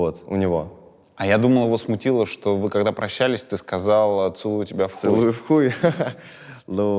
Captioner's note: chuckles